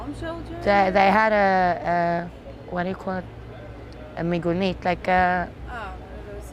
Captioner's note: hebrew